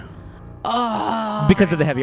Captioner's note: laughs